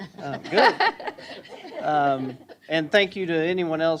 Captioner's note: laughter